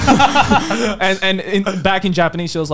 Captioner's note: laughing